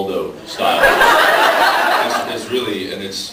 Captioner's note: laughs